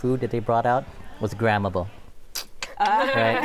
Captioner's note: imitates camera shutter clicking